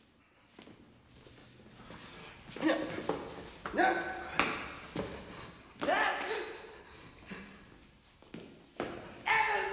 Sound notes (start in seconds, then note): 2.4 grunting